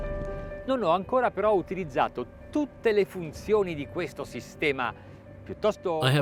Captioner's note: speaks in foreign language